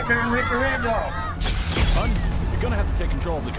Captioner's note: loud blasting